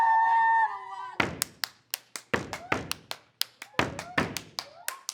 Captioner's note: clapping and stomping